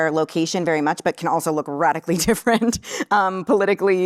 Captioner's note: laughs